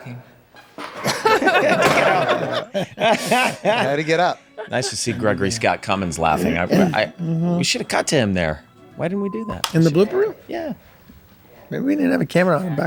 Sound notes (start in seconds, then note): 0.9 group laughs